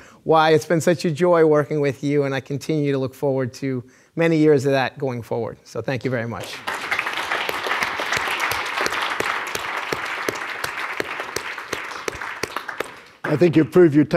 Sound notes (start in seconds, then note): 6.4 audience applauding